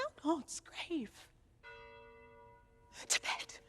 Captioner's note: bells toll